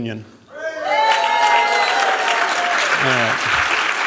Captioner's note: cheers, applause